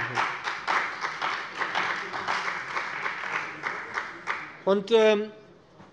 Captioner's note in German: Beifall bei dem BÜNDNIS 90/DIE GRÜNEN und der CDU